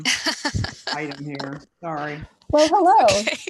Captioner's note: laughs